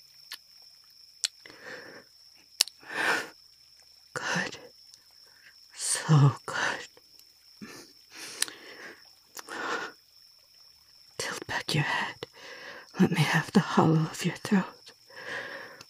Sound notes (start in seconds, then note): 4.2 kiss, more intense